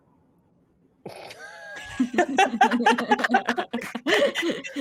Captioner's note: group laughs